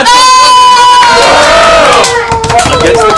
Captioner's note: cheering